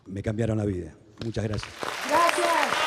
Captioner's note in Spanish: Aplausos